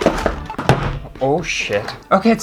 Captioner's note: bang